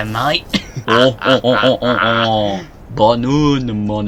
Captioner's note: both laugh